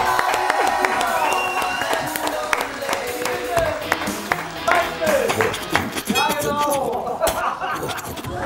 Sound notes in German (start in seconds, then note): 0.4 Heitere Musik; 5.9 Er macht grunzende Geräusche